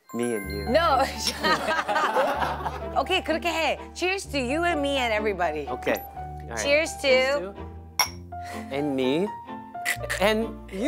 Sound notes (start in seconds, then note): 1.5 hahaha